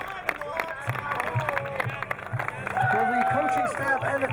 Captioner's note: crowd cheering